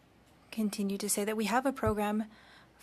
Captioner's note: speaking French